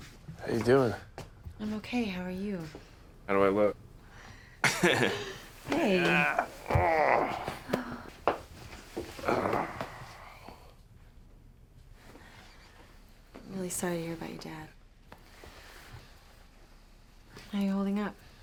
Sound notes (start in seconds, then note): 4.6 chuckles; 5.6 grunting